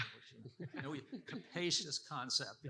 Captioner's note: participants laughing